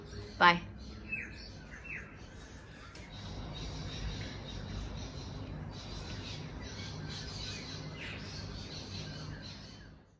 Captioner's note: bird noise continues to the end